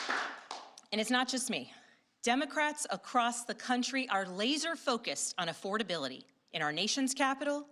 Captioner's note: applause